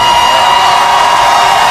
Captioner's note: clapping